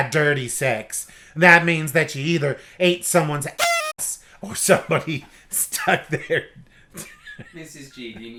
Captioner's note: laughing